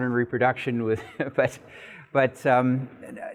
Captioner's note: laughing